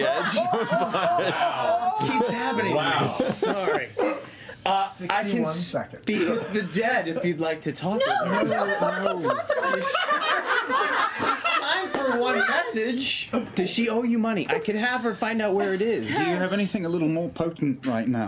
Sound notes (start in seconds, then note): 0.0 laughter; 11.0 laughter